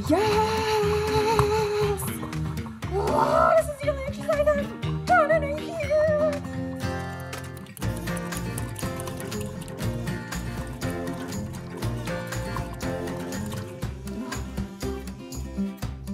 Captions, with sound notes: Yes! (yells) This is the only exercise I've done in a year! (mild music)